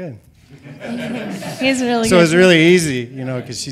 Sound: audience laughing

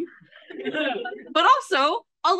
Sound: AUDIENCE laughs

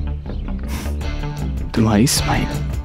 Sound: chuckles

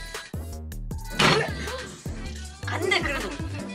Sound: bang

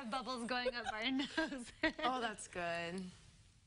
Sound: laughter

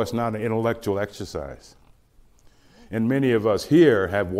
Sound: none

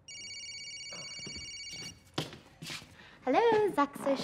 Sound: phone rings

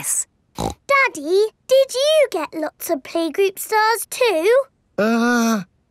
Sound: snorts

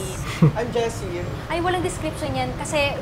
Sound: snickers

